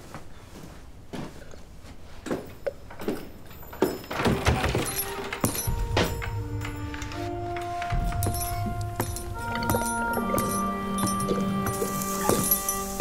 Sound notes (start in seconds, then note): 2.8 footsteps approaching; 5.0 door opens; 6.4 dramatic music